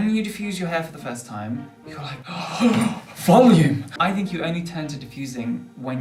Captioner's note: gasp